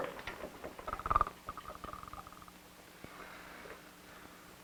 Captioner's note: heavy snoring